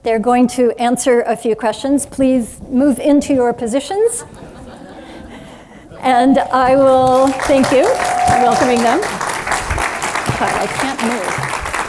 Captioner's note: applause